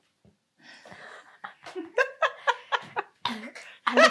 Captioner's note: laughing